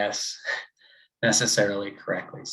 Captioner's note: chuckles